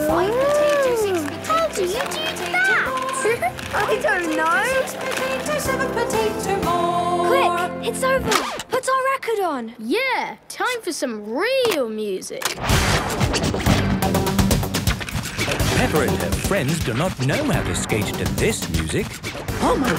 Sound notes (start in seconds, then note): 3.2 laughing; 15.6 heavy dance music